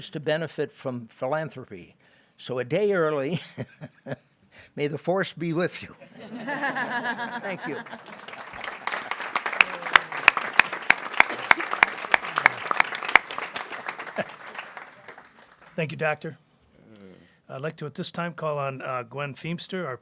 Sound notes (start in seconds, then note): 6.0 chuckles; 6.4 people laughing; 8.8 people clapping